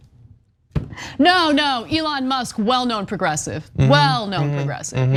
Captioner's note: laugh